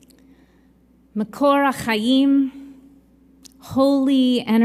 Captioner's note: in Hebrew